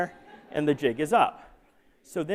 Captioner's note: laughter